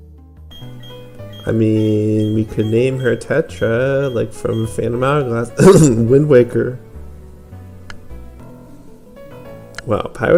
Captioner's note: cough